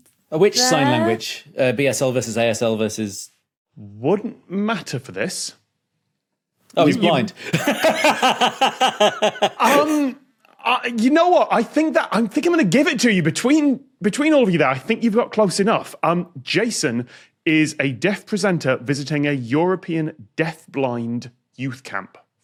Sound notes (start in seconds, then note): 7.4 belly laughs